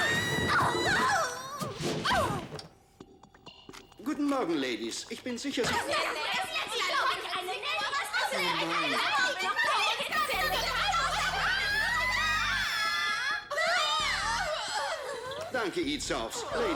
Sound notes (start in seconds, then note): 6.7 shouting; 12.8 screaming; 14.1 gasping